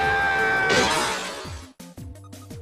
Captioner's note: window smashing